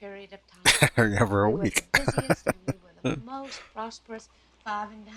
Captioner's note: chuckling